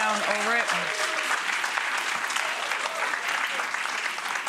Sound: applause

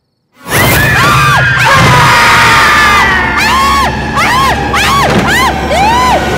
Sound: screaming

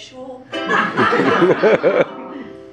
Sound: laughter

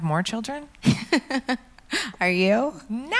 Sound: laughs

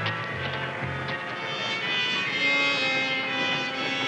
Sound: distant train horn howling; trains rumbling

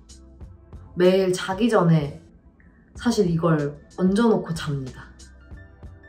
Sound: speaking in Korean

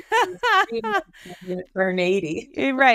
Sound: laughing

